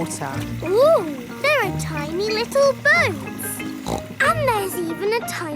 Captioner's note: snorts